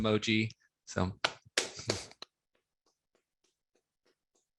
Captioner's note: clapping